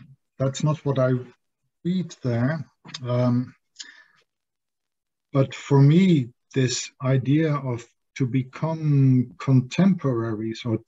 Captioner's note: says German? word